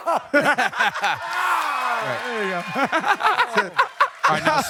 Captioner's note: cheers and applause